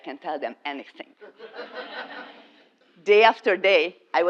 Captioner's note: laugh